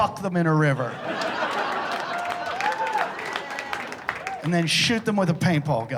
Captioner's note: laughter